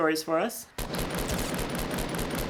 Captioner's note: gunfire